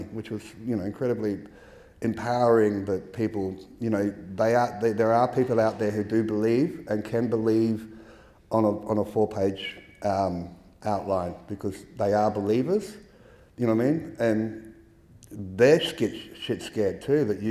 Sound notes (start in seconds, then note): none